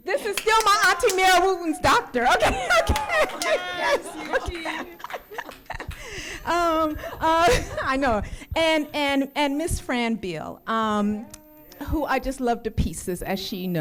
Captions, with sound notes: This is still my auntie Mary Wooten's doctor. Okay, okay. (laughing) I know. And Ms. Fran Beal, who I just love to pieces as she knows.